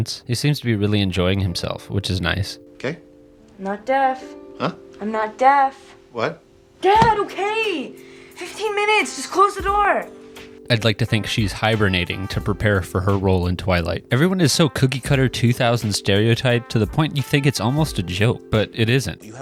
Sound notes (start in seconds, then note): 11.2 sigh